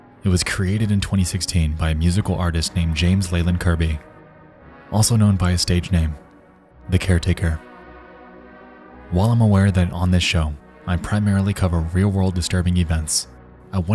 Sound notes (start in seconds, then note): none